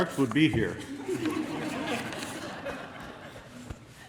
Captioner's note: laughter